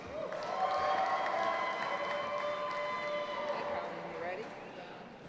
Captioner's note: audience applauding and cheering